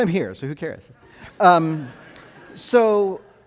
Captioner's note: audience laughing